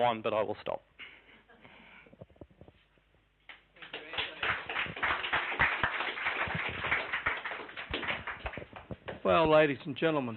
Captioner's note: clapping